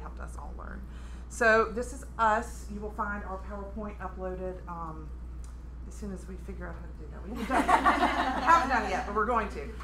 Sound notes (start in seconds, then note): 7.3 laughter